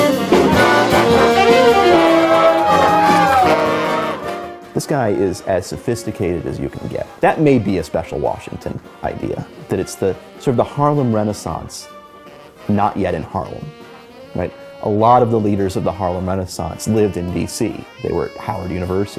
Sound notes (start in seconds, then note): 4.0 crowd applauds